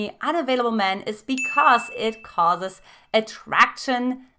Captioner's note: dinging